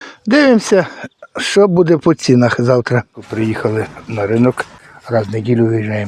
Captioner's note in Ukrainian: сміх